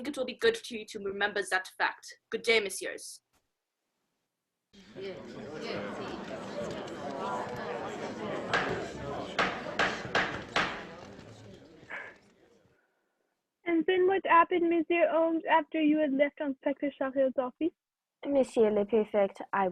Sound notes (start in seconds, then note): 4.8 chatter of voices; 8.4 gavel